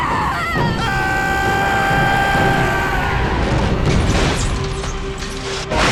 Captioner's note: screams